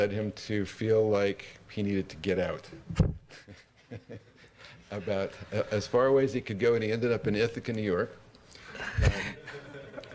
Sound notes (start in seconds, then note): 3.3 laugh; 8.7 laughter